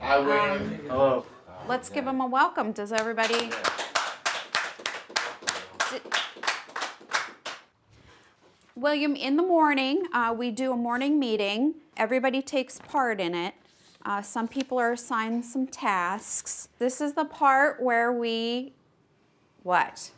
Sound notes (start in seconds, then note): 2.9 applause